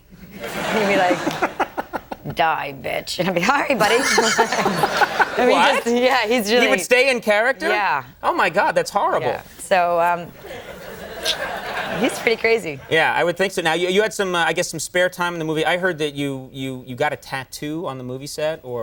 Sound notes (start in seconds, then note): 0.4 audience laughing; 3.7 laughs